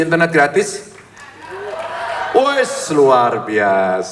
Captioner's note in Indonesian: tepuk tangan